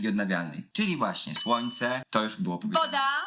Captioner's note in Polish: dzwonek